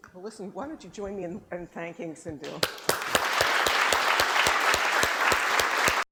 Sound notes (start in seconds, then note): 2.6 applause